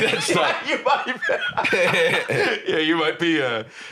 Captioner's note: laughing